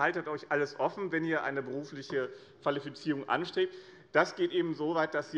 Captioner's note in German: none